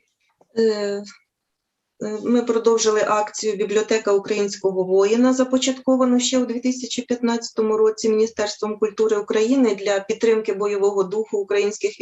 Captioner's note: foreign Language